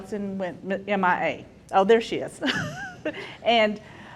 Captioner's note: laughs